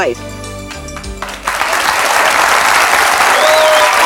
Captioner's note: audience cheers